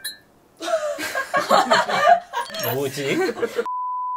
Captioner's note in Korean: 웃음